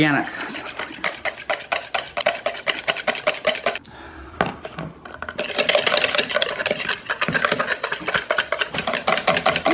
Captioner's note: whisking continues